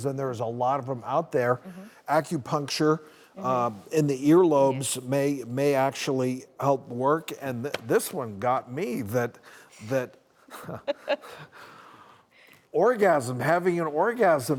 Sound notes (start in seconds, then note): 10.6 laughing; 10.6 laughs